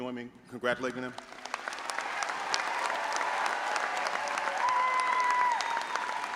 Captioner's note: all applauding and audience cheering